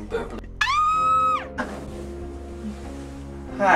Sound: Harry screams

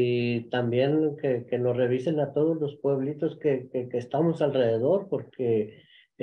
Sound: continues speaking in Spanish

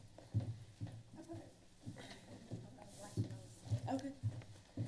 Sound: women chattering

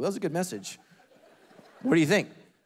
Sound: congregation laughing

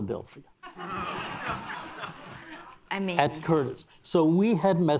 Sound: audience laughs

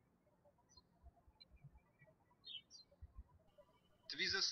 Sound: birds chirping

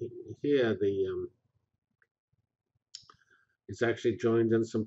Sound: pause

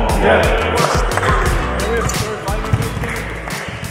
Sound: teams clamoring

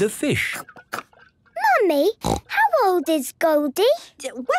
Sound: snorting

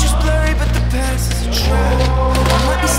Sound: none

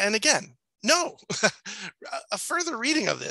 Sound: laughs

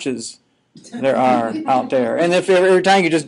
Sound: students laughing

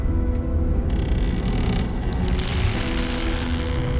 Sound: creaking

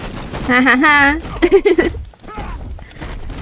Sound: giggles

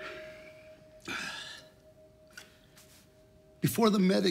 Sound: sighs

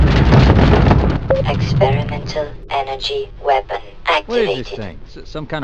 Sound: blip

